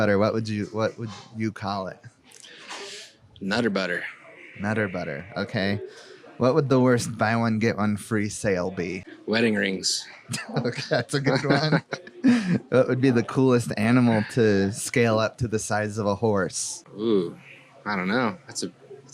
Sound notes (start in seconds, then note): 10.1 laughs